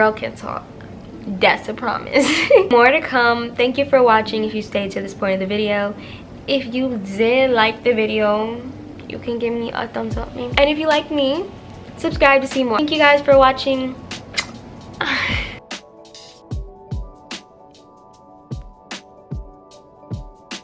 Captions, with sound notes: can talk, that's a promise more to come thank you for watching if you stayed to this point of the video if you did like the video, you can give me a thumbs up maybe and if you like me, subscribe to see more thank you guys for watching *kiss*